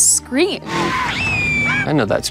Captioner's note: engine rumbling; Caleb screaming